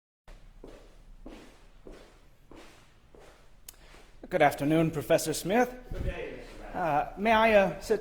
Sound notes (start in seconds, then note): 0.2 footsteps approaching